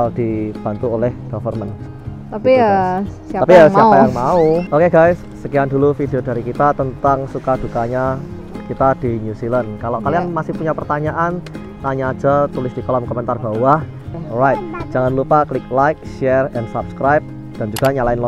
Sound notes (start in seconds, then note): 4.0 chuckles